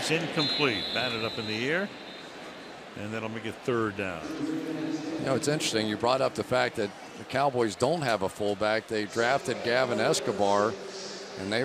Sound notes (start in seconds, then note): 5.0 pa announcement